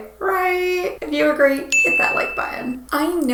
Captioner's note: bell chiming